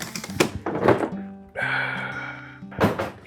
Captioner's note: exhales